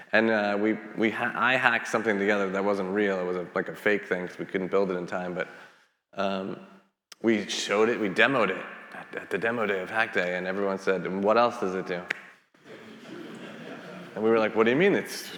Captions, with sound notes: And I hacked something together that wasn't real. It was like a fake thing, 'cause we couldn't build it in time, but we showed it, we demoed it at the demo day of hack day, and everyone said, "What else does it do?" (attendees laughing) And we were like, what do you mean?